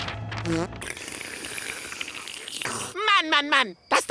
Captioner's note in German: Schlürf